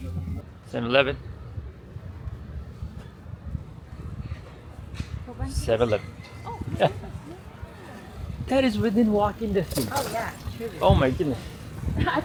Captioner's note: laughter